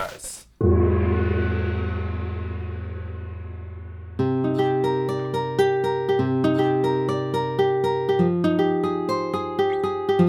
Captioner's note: gong!!; sexy music